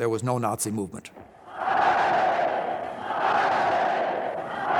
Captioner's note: crowd chanting "Heil"